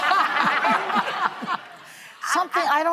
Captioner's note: laughter